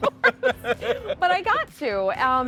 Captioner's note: both laughing